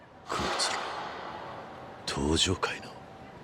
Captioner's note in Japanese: 鼻息